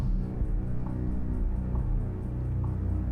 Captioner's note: none